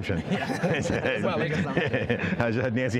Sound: laughs

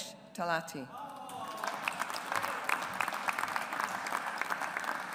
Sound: audience applauds

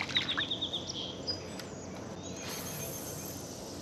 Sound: birds twittering

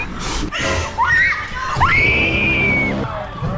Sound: screams

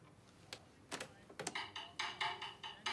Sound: cassette clicks; upbeat music

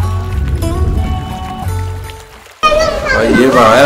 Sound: water Sound

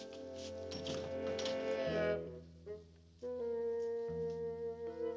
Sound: door clanks; intense music

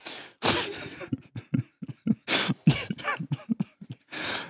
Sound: laughs; chuckles softly

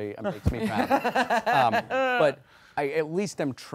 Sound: laughing

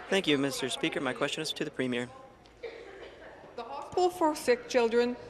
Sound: speaking in French

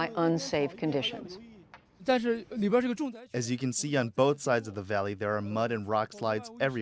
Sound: through translator

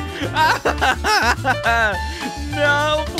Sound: laughing

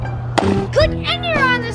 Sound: water splashing

